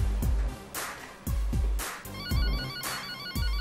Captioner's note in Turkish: Telefon Sesi